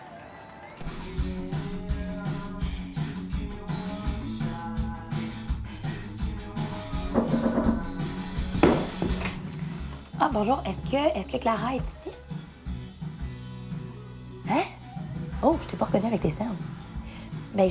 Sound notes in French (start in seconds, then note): 7.1 coups à la porte